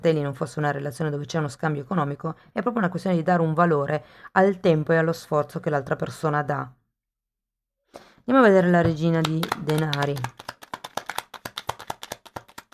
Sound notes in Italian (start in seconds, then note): 9.2 Applauso